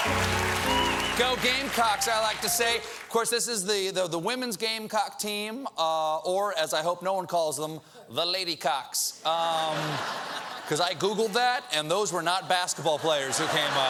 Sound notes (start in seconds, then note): 0.0 cheers and applause; 5.8 laughter